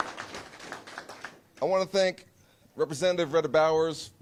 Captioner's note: applause